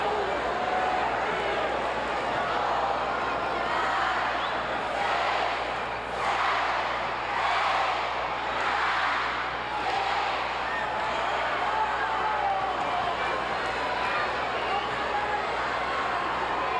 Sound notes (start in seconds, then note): 11.0 audience chattering